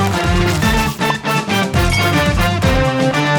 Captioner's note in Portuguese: tilintar